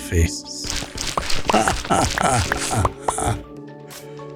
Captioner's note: laughs